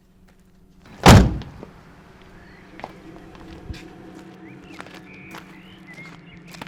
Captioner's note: birds chirping; ominous music